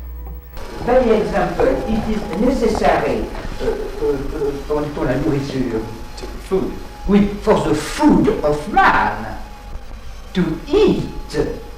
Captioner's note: animals